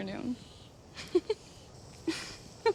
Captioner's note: laughs